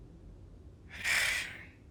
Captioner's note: sigh